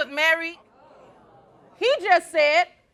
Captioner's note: crowd oohing